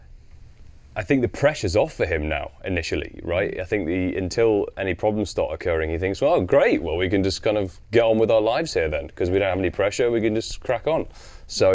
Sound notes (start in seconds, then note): none